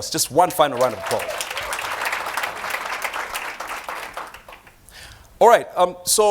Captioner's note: applause